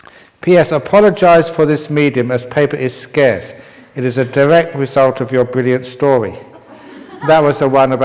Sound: laughter

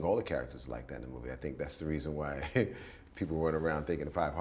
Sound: laughs

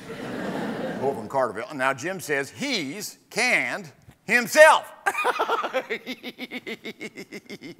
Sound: laughs

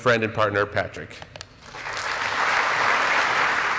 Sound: applause

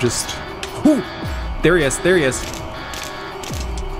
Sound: hooting

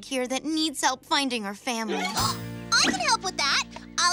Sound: gasps

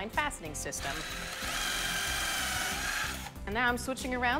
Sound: drilling

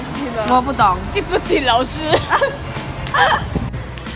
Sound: ahhahaha

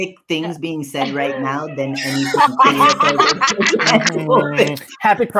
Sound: laughter

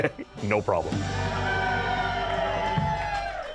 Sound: cheering

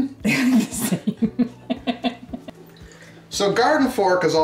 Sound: camerawoman laughing

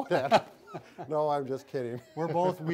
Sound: laughing

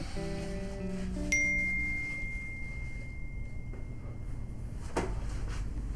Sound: phone Ding

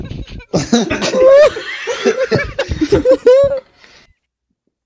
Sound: laughter

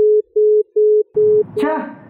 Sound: network engaged tone

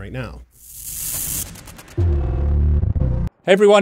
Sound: electric sound

